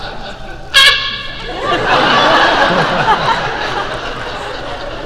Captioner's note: Ming-Na laughing